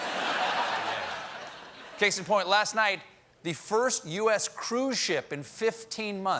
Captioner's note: laughter